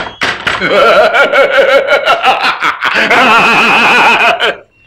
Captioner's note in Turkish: Kahkahalar